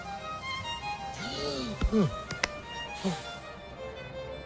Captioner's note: gasps